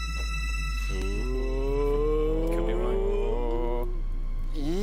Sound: sinister music; groaning

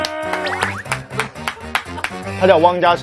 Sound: applause for myself

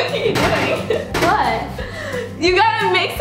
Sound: laughs

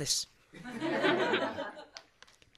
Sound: laughter

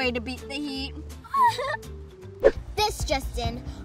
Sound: laughing

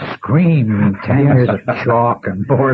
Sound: laughter

